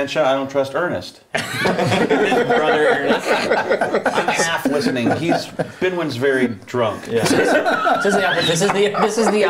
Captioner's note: laughter